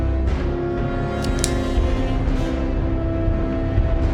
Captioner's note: dramatic tense music; knife clicks